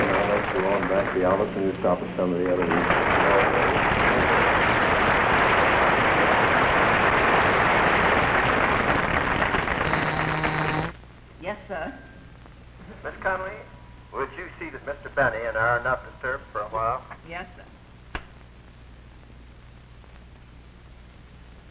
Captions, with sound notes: Come on now, let's go on back to the office and we can stop at some of the other rooms. [applause] [buzz] Yes, sir. Mrs. Conway, would you see that Mr. Benny and I are not disturbed for a while? Yes, sir.